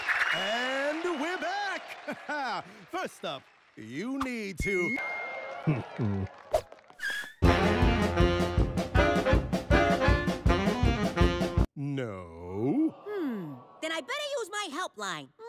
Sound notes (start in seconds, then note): 1.8 laughs